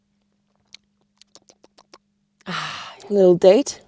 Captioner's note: tongue clicking